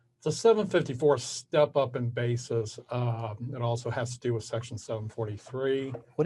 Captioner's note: none